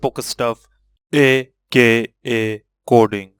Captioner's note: in heavy voice